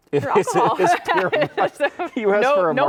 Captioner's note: laughing